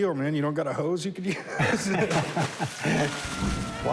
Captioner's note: laughing